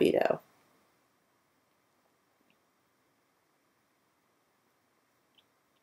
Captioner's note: quiet